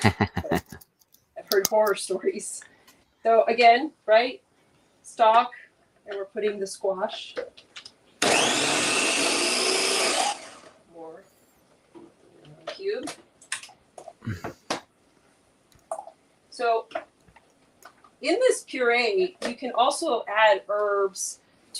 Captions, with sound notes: I've heard horror stories. So again, stock and we're putting the squash (blender whirling) The cube. So in this puree you can also add herbs to these purees.